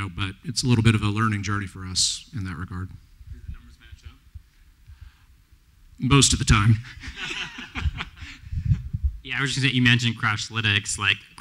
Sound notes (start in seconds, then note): 6.8 laughter; 6.8 laughs